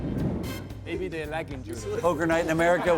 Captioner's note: players joking and laughing